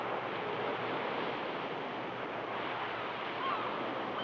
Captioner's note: gulls squawk